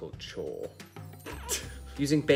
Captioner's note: laughs